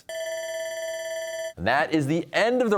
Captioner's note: bell ringing